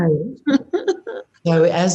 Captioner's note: laughs